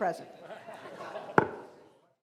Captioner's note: laughing